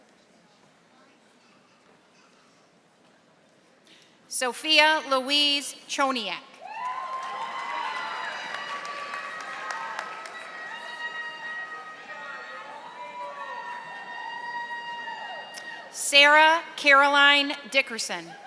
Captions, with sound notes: Sophia Louise Chonian. (audience applauding) Sarah Caroline Dickerson.